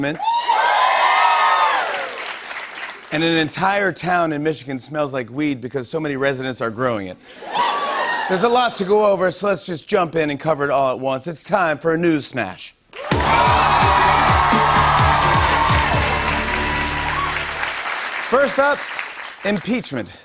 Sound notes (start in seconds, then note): 0.2 cheering and applause; 7.4 cheering, laughter, and applause; 13.0 cheering and applause